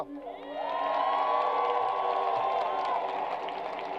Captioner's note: crowd applause